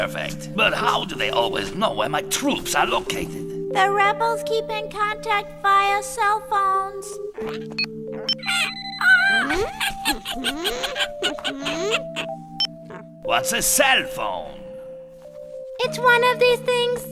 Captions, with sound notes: - Perfect, but how do they always know where my troops are located? - The rebels keep in contact via cellphones. (phones beeping) (mice squeaking) - What's a cellphone? - It's one of these things.